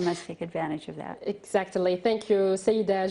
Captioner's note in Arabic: تتحدث الإنجليزية